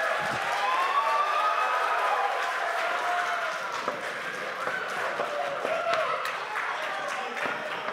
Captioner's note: applause